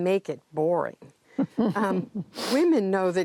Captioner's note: laughter